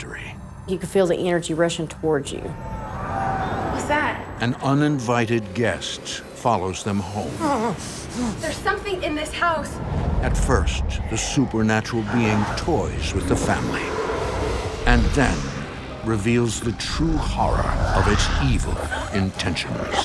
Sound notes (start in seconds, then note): 2.6 distant clamoring; 6.9 Jon Re-Enactor gasping